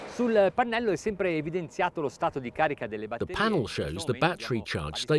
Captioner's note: speaks in foreign language